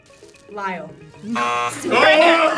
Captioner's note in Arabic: أصوات الجرس